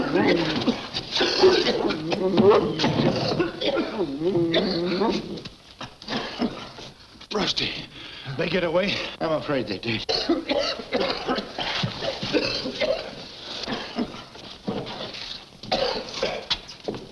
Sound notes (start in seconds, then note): 0.0 The Phantom coughing; 10.0 both coughing